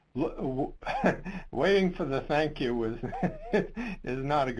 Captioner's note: laughs